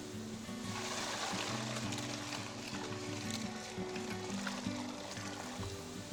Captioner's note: gentle music; sap pouring; sap simmering